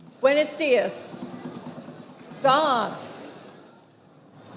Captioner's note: speaking foreign language